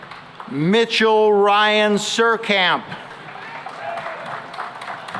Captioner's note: applause